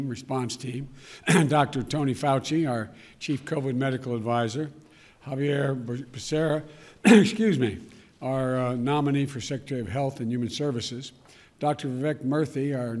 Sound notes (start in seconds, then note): 7.0 coughs